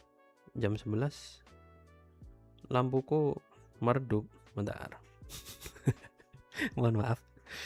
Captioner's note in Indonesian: tertawa